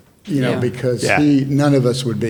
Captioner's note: panelists murmuring in agreement